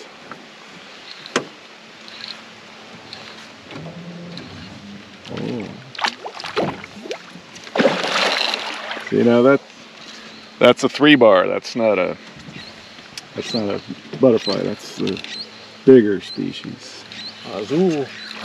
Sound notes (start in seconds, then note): 3.0 reel cranking; 9.4 fish splashing